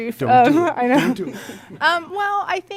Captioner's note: laughter